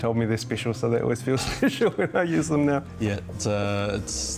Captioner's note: laughs